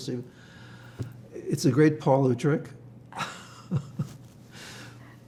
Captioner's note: laughing